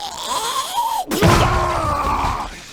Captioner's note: squelchy pop